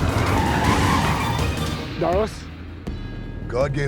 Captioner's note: tires screeching